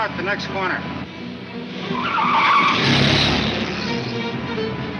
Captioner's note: car wheels screech